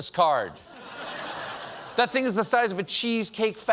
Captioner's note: laughter